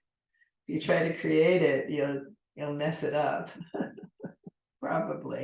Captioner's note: laughs